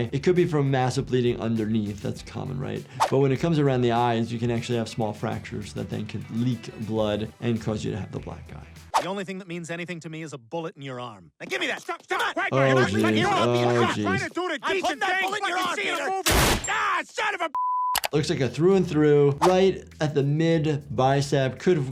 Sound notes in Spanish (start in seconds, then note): 14.3 Peter y Quagmire gritando; 16.3 estallidos de disparos